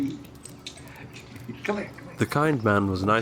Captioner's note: dog claws clicking; chuckles